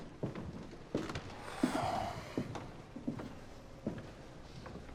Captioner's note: floorboards creaking underfoot; Eugene sighing